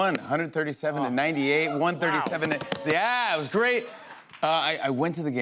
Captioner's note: cheering